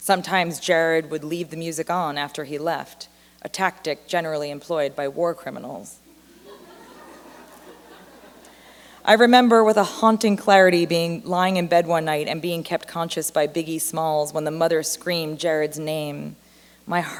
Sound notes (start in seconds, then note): 6.1 laughter